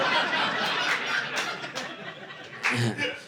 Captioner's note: audience laughing